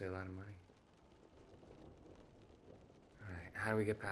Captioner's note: rain pattering